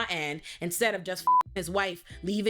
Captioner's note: beep